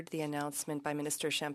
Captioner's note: speaking French